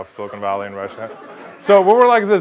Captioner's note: laugh